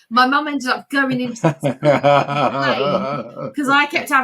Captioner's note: laughing